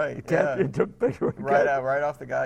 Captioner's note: laughing